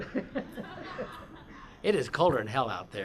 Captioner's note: laughter